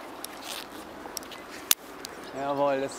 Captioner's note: clicking